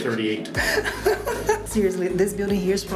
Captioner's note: laughs